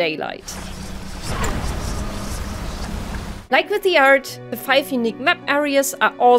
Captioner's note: eldritch horror whispers